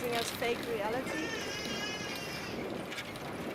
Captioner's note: baby crying